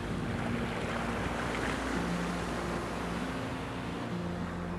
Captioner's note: water flowing